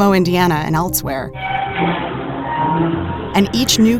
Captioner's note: metal creaking